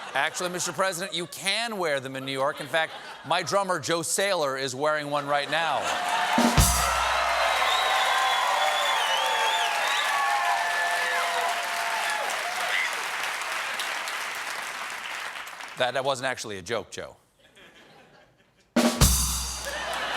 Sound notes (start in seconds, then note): 7.2 cheers and applause; 7.2 laughter; 17.9 rim shot